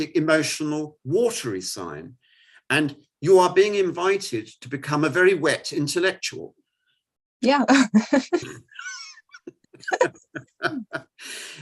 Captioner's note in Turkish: Gülüşmeler